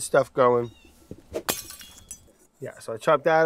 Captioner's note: glass breaking